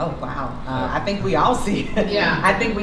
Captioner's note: laughs